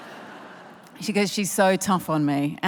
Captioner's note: laughter